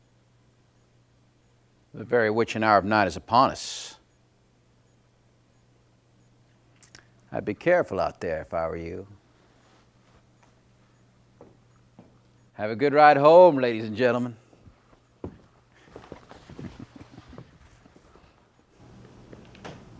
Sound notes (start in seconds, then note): 14.4 footsteps receding